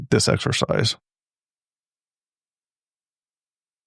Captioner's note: silence